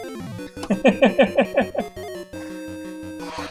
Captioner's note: chuckles